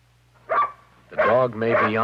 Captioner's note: barking